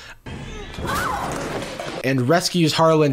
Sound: Bunny shrieks; clattering sounds

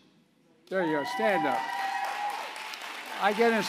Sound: applause

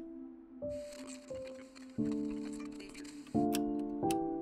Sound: radio chattering

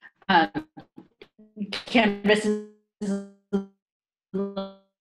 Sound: voice echoing

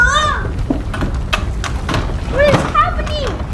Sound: draws rattling

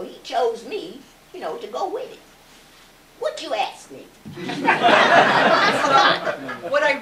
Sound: laughter

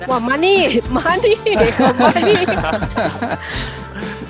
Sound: more laughter

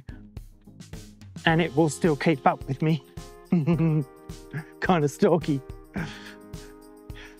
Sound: laughs

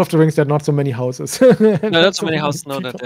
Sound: laughing

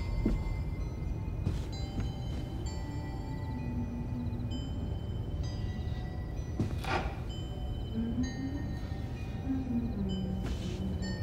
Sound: humming

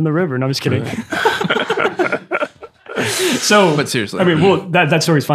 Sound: all laughing

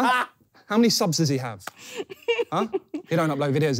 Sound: laughing

